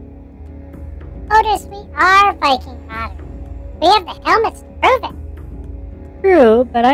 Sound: laughing

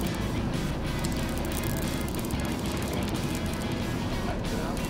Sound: fishing line whirring

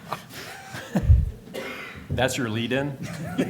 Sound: laughter

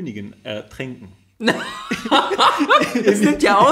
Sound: laughs

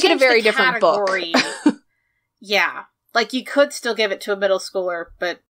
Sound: laughs

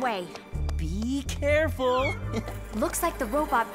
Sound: chuckle

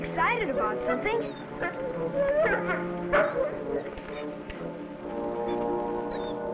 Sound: Rebel barking and whimpering

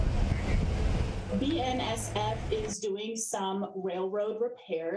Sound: car drives away

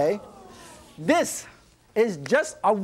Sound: audience oohs and aahs

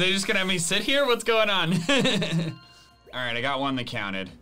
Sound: laughs

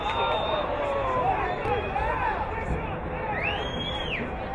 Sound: whistle blowing

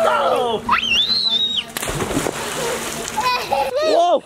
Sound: screams

